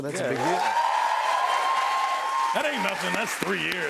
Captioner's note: cheers and applause